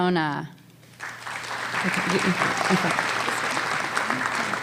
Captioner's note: applause